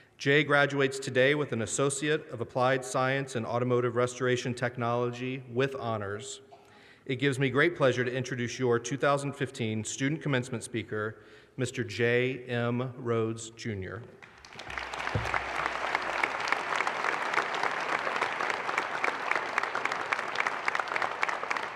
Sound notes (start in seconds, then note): 14.2 audience applause